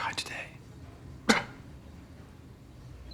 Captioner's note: coughing